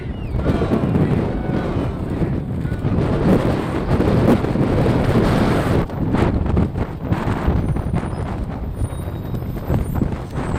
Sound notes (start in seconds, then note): 3.3 flags rippling; 3.3 strong wind blowing